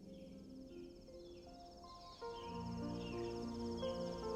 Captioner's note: birds chirping